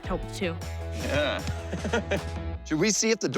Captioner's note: laughs